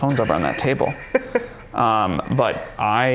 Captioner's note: chuckling